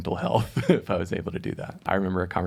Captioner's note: chuckling